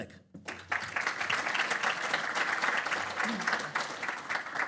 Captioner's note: audience applause